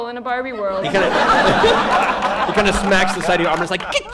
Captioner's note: laughter